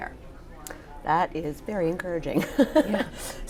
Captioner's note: laugh